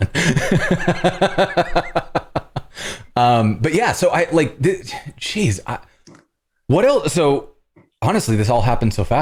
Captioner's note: laughter